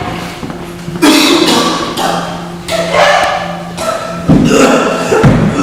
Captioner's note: fatally coughs